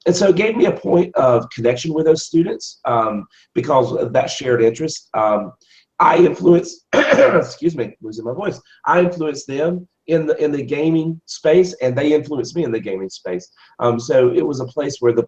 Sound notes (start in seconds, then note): 6.9 cough